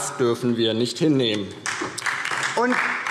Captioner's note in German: Beifall DIE LINKE